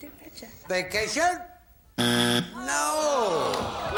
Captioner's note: buzzer